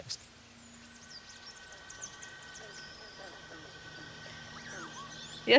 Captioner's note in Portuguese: Som de floresta